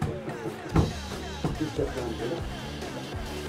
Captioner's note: Leise Gesprächsfetzen